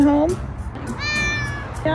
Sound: meowing

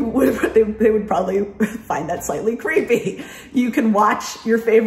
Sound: laughs

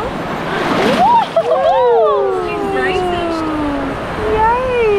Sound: squeals

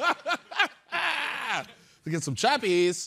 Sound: chuckling

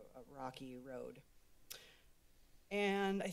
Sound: clicks Tongue

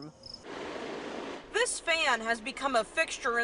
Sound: sound of fan

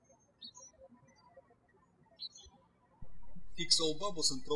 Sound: birds chirping

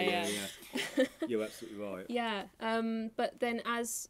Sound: laughing

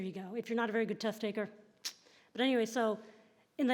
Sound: tongue clicking

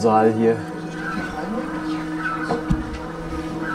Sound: geese chatter

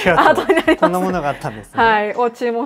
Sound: laughs

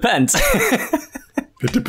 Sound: laughter

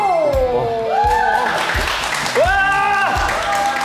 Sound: clap clap clap clap

